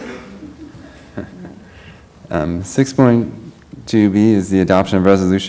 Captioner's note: laugh